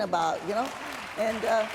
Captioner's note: applause